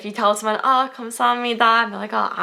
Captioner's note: foreign language